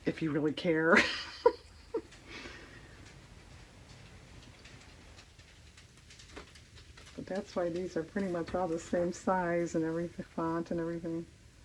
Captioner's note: laughs